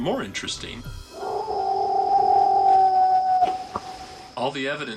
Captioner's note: howling, knocking